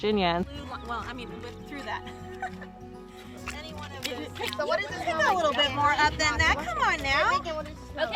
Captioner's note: indistinct conversation and laughter